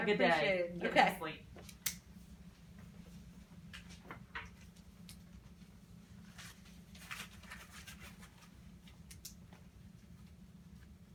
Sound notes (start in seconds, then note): 6.2 pen clicking; 8.9 notepad rustling, pen clicking, hand clap